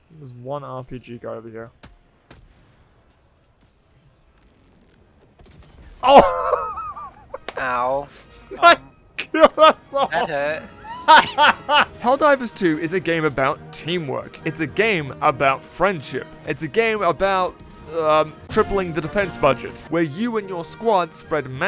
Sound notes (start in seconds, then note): 9.2 laughs